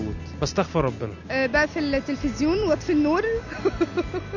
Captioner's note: laugh!